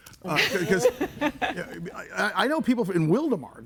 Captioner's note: everybody laughing